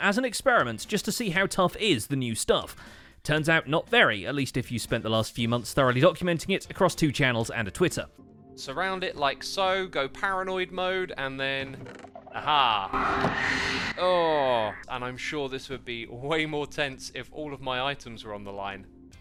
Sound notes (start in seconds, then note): 11.7 chest opens; 12.3 sculk shrieker shrieks